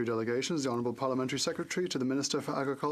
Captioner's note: speaking FRENCH